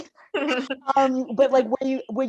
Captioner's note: laughing